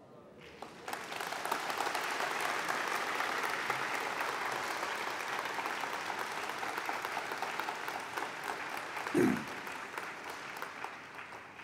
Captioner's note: applause